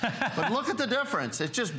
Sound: laughter

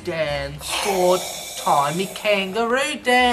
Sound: slurps from cup

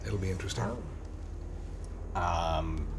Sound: low sound of airplane outside

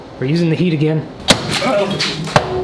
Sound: loud thud

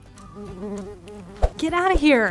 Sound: insect buzzing

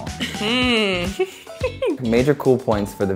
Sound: chuckles

